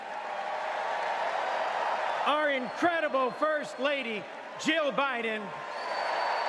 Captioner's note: applause